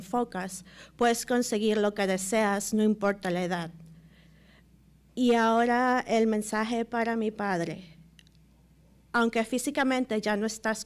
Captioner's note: speaking Spanish